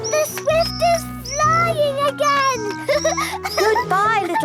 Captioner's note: laughter